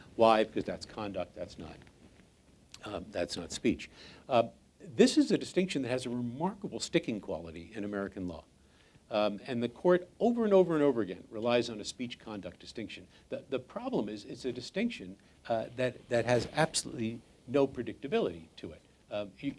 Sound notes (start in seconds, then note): none